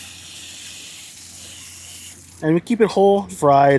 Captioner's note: brush rustles; water hisses